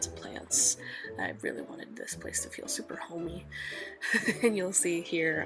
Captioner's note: laughs